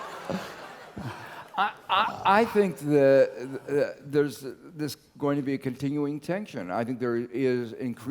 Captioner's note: laugh